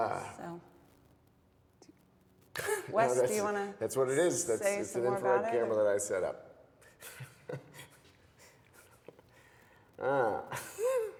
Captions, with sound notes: - Wes, do you wanna-- - That's what it is-- - Say some more about it - It's an infrared camera that I set up. (chuckling)